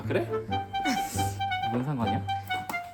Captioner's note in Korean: 웃음